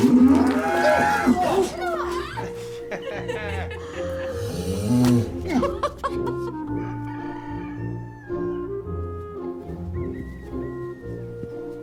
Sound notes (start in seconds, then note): 0.0 cow bellows; 5.1 everyone laughs; 6.6 cow moos; 6.8 rooster crows